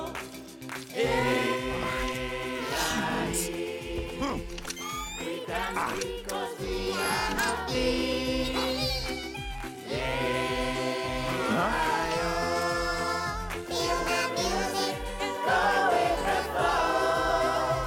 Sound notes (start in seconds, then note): 0.0 clapping; 4.5 whirring